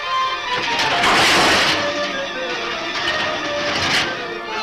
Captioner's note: objects clatter